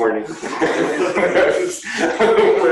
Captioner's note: laughter